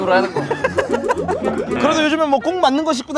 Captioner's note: laughing